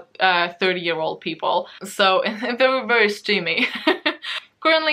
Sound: laughs

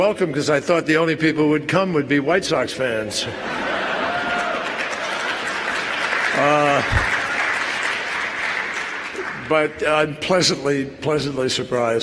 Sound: applause

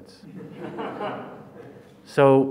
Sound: audience laughs

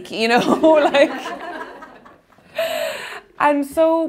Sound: laughing

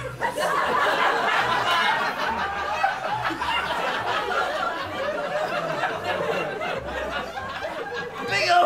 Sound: laughter

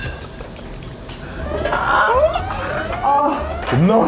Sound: tipsy

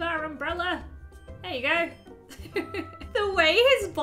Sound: laughs

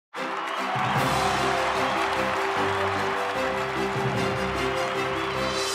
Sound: crowd cheering; regal music

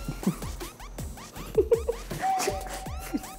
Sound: tired

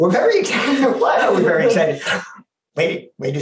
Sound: laugh

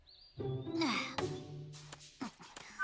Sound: exhales

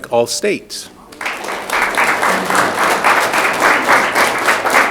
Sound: audience clapping

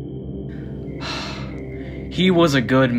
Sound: sighs

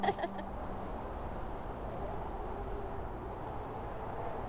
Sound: wind howling

